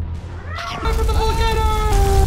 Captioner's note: music; boom